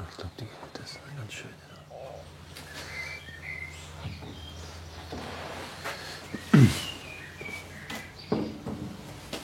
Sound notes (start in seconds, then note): 0.2 whispers; 3.0 birds chirping; 6.5 throat clearing